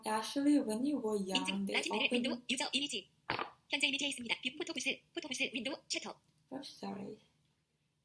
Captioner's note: text to speech